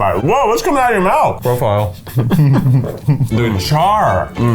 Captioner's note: laughs